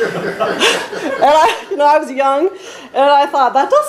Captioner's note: laughs